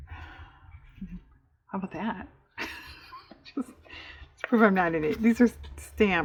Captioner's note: laughs